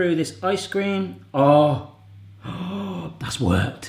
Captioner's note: gasps